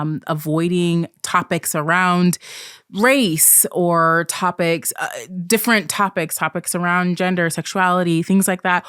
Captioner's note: none